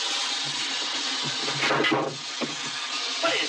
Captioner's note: metal clattering